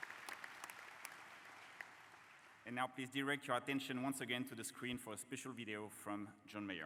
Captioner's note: applause